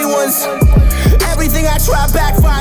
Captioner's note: echo